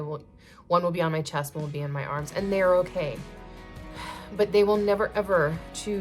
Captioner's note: sigh